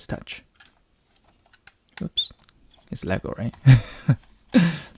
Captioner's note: chuckles